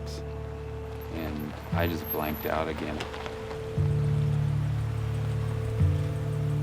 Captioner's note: car stopping